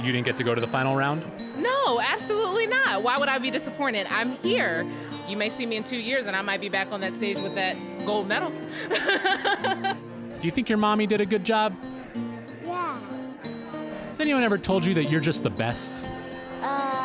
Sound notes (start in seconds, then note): 8.7 laughs